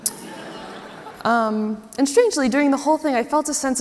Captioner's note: audience laughs